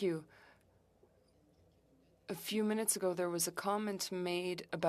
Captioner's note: speaking French